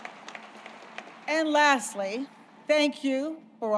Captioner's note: applause